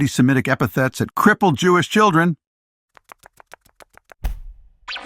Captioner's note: footsteps patter